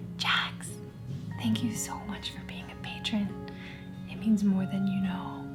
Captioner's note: whispering